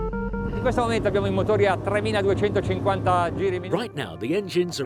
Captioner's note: speaking foreign language